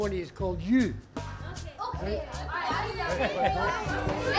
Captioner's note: laughter